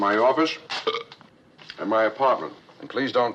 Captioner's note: burps